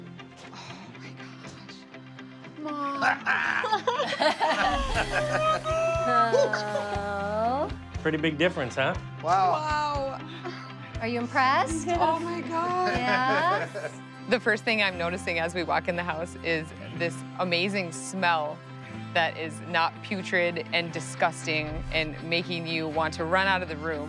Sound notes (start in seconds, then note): 2.8 laughing; 4.9 family cheering